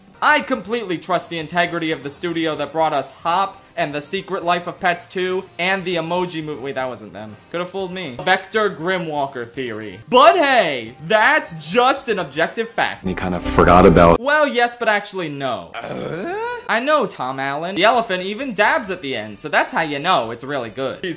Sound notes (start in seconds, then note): 15.7 Tim Allen Grunt